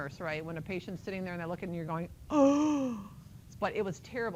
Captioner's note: gasp